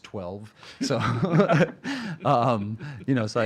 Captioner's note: laughing